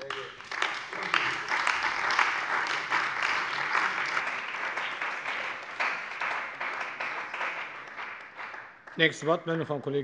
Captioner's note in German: Beifall bei der CDU und dem BÜNDNIS 90/DIE GRÜNEN